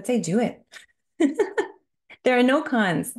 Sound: chuckling

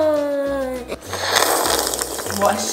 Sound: slurping

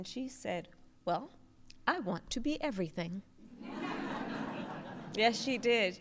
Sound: laughter

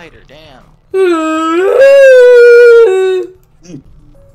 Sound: whining way to loudly

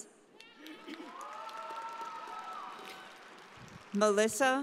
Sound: audience cheering

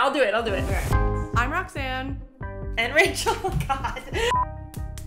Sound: laughs

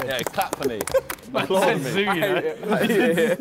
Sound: men clapping

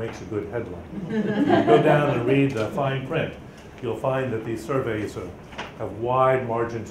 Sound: laughter from audience

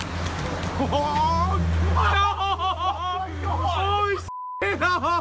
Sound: laughing and swearing

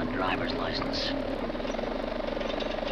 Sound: wings sputtering; bike rattles

